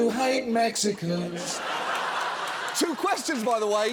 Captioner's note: studio audience laughing, cheering